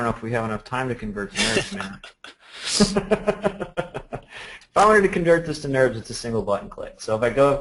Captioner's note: laughter